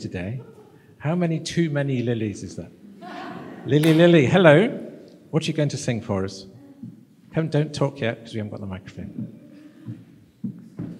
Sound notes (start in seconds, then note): 2.9 laughter